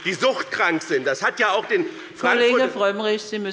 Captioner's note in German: Beifall bei dem BÜNDNIS 90/DIE GRÜNEN und der CDU